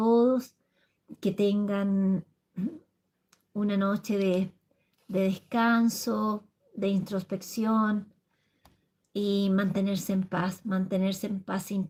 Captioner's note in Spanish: carraspeo